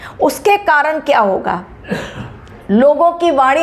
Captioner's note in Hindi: गला साफ़ करने की आवाज़